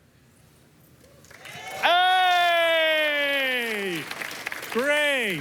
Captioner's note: applause